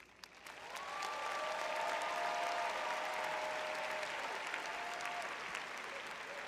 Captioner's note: audience cheering